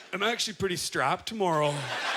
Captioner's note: audience laughter